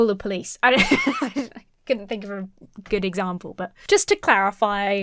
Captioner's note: laughs